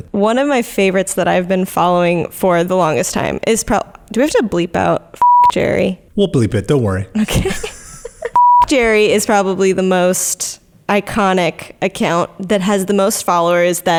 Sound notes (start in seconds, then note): 5.2 beep; 7.1 laughs; 8.3 beep